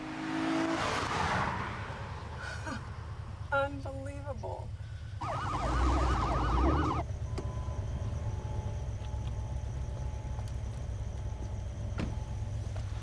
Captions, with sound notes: (car engine revs) - Unbelievable. (siren blares)